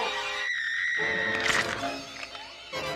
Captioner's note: screaming